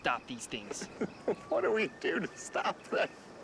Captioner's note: laughs